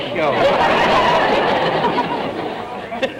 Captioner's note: audience laughter